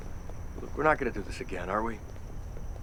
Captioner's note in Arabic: none